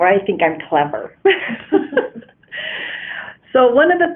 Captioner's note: laughter